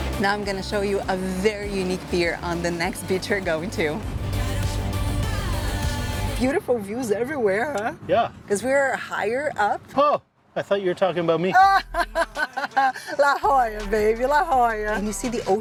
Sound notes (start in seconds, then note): 11.5 laughs